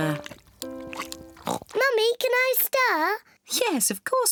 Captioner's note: oinks